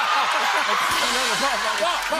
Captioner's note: laughter and applause; rimshot